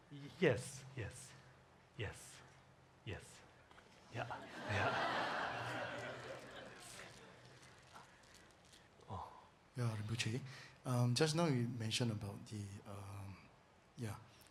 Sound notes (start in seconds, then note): 4.2 audience laughing